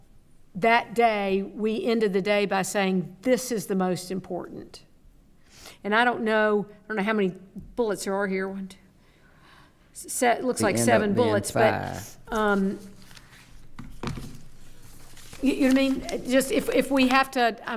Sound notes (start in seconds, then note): 8.5 counting quietly; 12.4 pages rustling; 13.7 object clattering